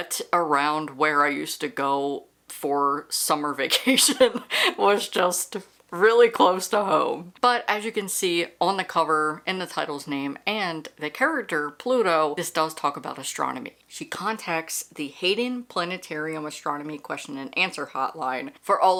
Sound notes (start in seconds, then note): 3.7 laughter